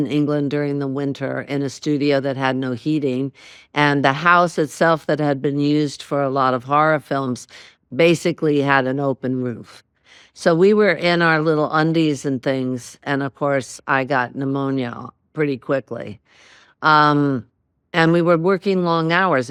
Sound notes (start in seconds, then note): none